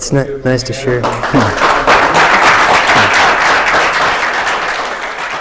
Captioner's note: applause